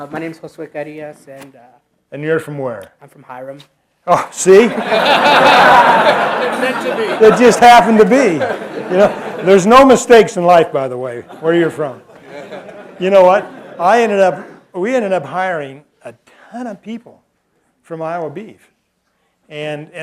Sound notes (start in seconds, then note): 4.6 laughter